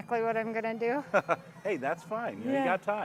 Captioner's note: laughing